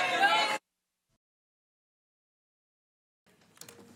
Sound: background chatter

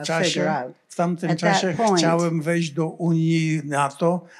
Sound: foreign language

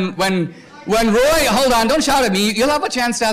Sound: protestor shouting

